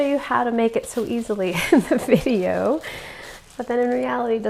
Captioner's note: chuckles